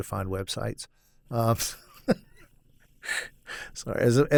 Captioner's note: laughs